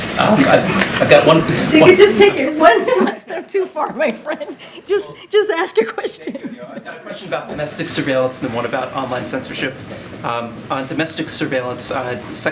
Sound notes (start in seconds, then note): 4.0 laughter